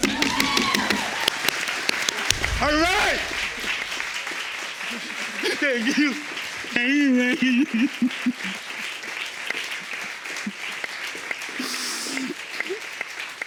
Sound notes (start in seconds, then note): 0.2 audience cheering; 6.7 sobbing; 11.6 sniffling